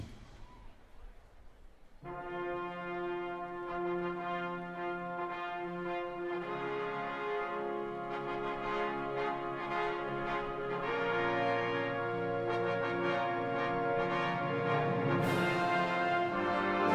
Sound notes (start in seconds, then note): none